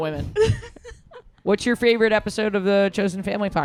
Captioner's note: laughs